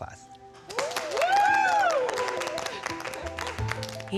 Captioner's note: applause